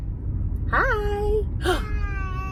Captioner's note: exclaims